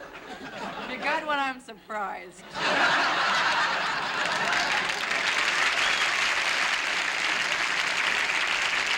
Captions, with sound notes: If you've got one, I'm surprised. [ Laughter ] [ Applause ]